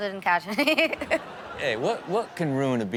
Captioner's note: audience laughs